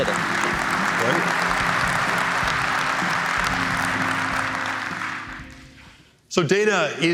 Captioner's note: applause